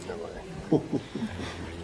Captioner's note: laughing